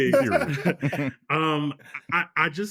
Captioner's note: laughing